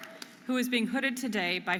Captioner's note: audience applauding and cheering